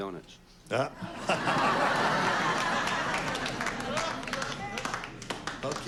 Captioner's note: laughter